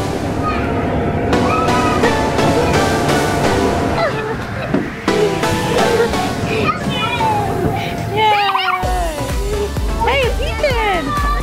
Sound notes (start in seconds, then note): 0.9 chuckles; 8.3 laughs in excitement